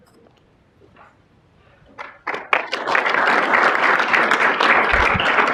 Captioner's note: applause